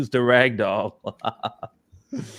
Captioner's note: laughs